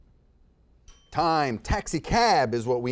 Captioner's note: timer chimes